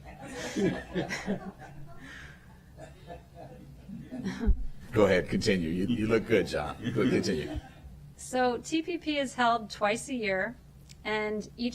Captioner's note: laughter